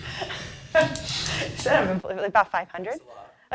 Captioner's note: laughing